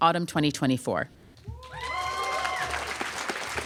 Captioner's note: applause